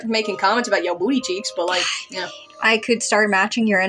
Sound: whispering

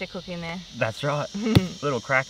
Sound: laughs

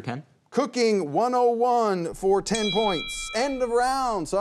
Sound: bell dings

